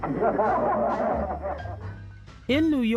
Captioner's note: people laugh